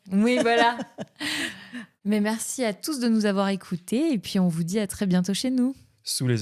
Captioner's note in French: rires